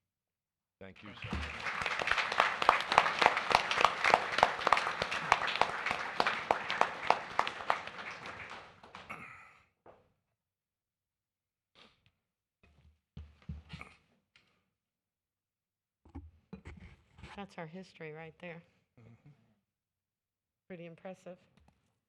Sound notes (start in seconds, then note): 7.5 applause